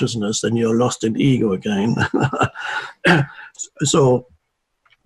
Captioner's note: laughs